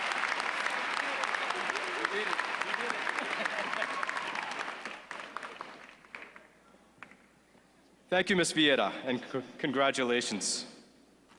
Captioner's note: applause